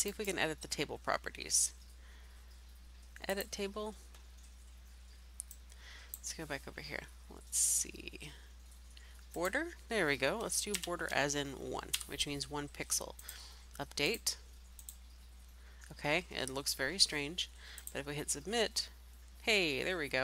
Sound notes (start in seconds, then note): 14.8 click